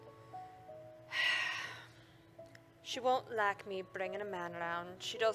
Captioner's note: sighs